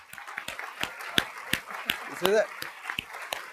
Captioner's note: applause